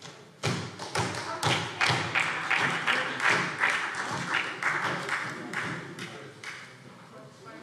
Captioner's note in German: Beifall SPD